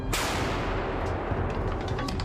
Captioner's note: yells in ukrainian; cannon booms